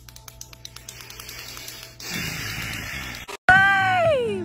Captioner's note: rapid clicking; long sigh; music playing in background